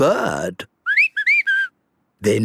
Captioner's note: whistling